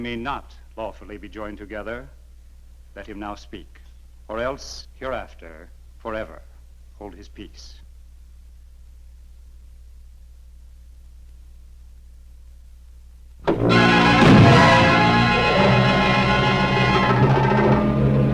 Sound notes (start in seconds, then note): 13.4 doors banging; 13.5 suspenseful music; 17.2 dramatic music; 17.2 wind blowing eerily